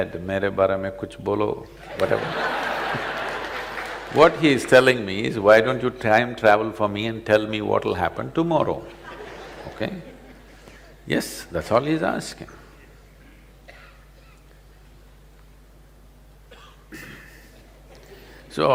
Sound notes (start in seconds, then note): 1.8 laughter